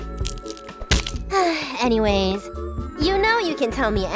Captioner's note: sighs